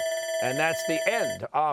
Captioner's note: bell ringing